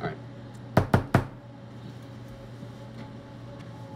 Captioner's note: knocking on door